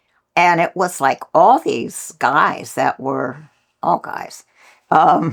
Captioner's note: laughs